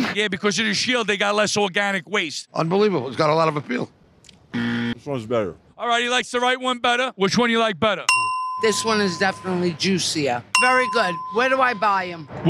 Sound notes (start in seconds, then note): 4.5 low buzzer; 8.1 ding